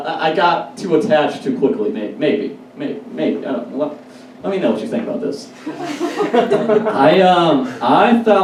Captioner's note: audience Laughs